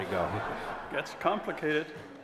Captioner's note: audience laughs